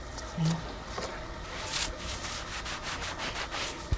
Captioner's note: scraping